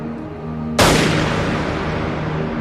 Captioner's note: gunshot